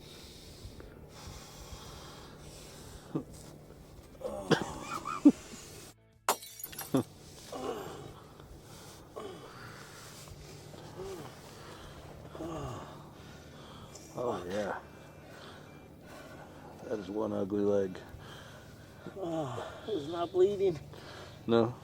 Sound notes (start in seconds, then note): 0.0 breathing heavily; 4.1 groans; 6.3 glass smashing; 7.4 groaning